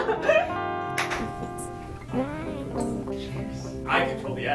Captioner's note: clap